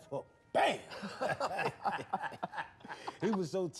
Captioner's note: laughing